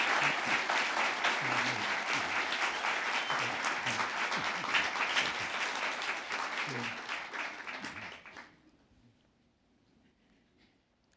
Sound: applause

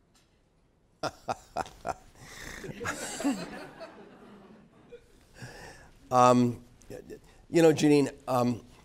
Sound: laugh

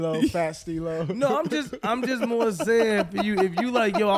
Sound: laughing

